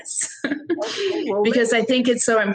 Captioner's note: laughing